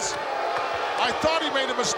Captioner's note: audience booing